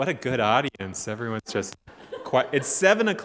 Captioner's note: audience member chuckling